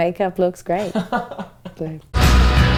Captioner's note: laughs; dramatic music